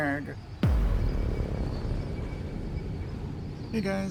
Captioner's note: cinematic boom